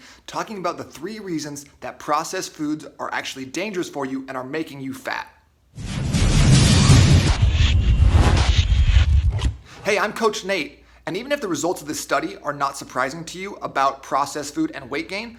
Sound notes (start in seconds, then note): 5.8 loud flame surging